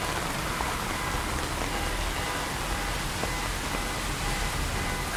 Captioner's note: car alarm blaring in the distance